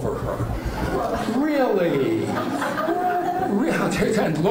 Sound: laughing

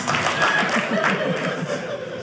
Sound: audience laughing

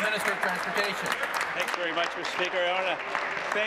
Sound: applause

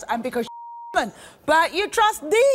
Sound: beep

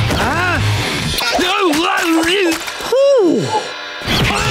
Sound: grunting, sighing

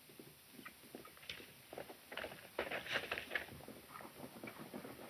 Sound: horses galloping

